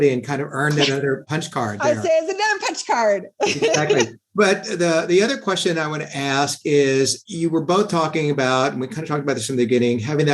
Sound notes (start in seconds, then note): 3.4 laughs